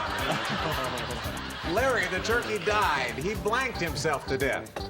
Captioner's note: laughter